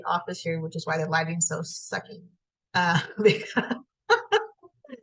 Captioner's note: laughs